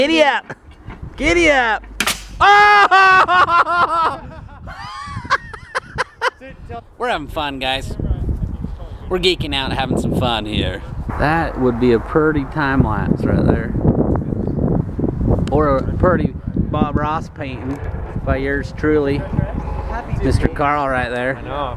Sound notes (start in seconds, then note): 2.4 laughs; 4.3 laughter